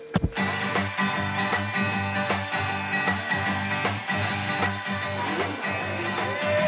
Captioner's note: chatter; upbeat music